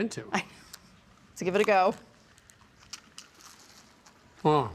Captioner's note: laughs